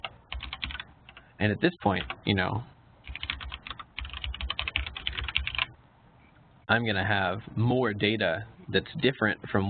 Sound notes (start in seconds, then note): 3.0 keyboard clicking